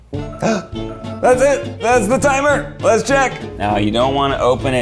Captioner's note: gasp